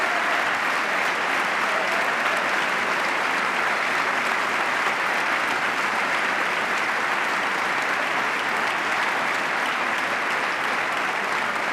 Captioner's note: applause